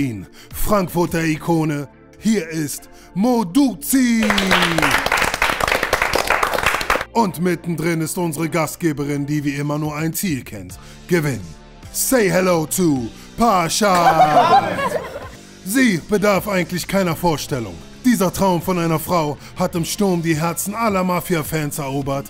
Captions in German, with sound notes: Frankfurter Ikone, hier ist Mo Douzi! Und mittendrin ist unsere Gastgeberin, die wie immer nur ein Ziel kennt: gewinnen. Say hello to Parshad! (Lachen) Sie bedarf eigentlich keiner Vorstellung. Dieser Traum von einer Frau hat im Sturm die Herzen aller Mafia-Fans erobert,